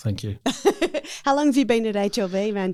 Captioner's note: laughs